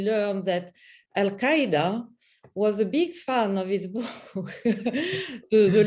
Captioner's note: chuckle